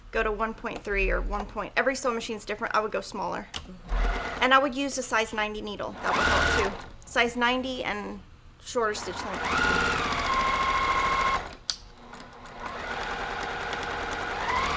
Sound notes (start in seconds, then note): 8.9 machine whirring